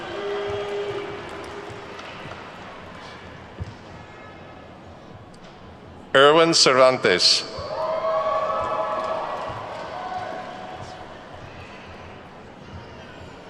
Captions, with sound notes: (attendees clapping) Erwin Cervantes. (attendees whooping and clapping)